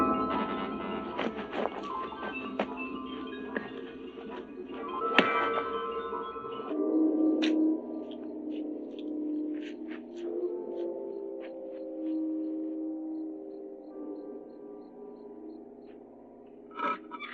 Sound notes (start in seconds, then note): 5.1 whack